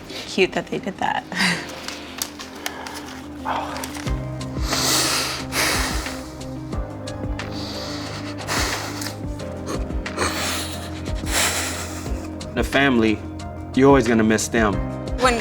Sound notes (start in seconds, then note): 2.6 chuckles; 4.7 sniffles; 6.8 calm music continues; 10.1 cries